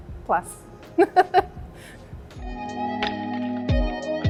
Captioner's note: laughs; upbeat music